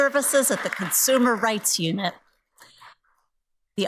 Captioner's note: audience applauds